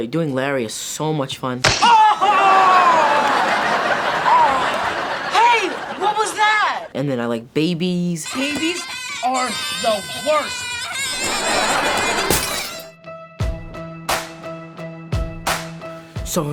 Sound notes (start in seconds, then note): 2.2 audience laughs; 13.1 upbeat music